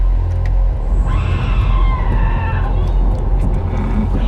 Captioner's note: screaming